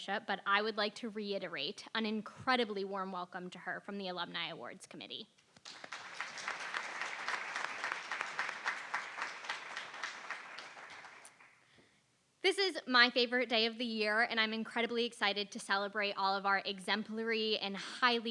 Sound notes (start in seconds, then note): 10.4 applause